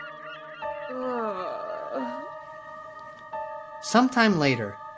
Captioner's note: Emma grunting